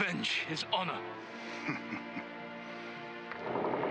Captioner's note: laughs